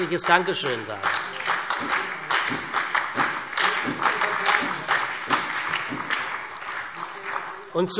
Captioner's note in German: Beifall SPD, CDU, BÜNDNIS 90/DIE GRÜNEN, Freie Demokraten und DIE LINKE